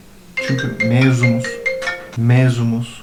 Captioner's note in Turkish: Telefon çalar